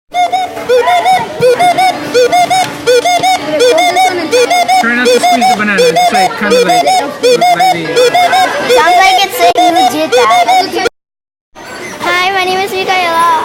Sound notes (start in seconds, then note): 0.1 electronic tweeting; 7.2 drowned out by tweeting